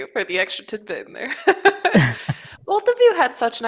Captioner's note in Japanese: 笑い